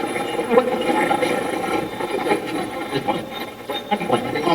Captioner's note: Steve's Box chatters